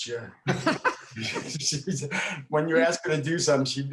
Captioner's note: all laughing